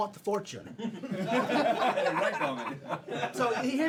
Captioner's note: all laughing